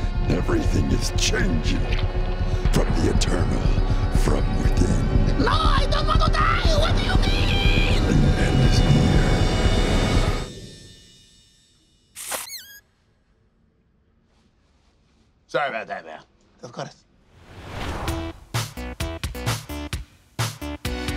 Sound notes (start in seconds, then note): 9.5 dramatic music; 12.2 fart squeaks; 18.5 rhythmic music